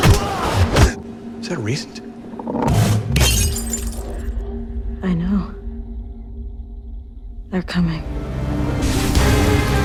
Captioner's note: cup shatters